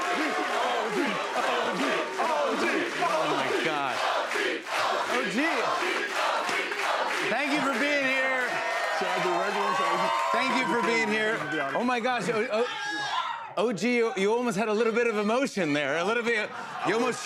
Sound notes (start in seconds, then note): 0.0 chanting; 3.6 chanting continues